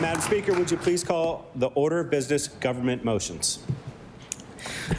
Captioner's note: cheering/Applause